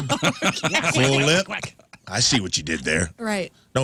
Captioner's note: laughing